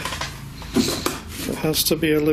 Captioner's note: shuffling